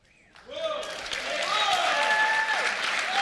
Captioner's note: applause